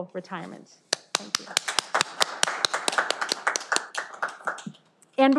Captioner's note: audience applauding